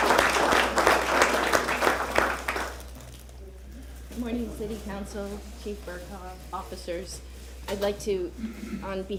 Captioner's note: applause